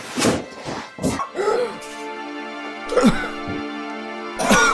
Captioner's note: gasping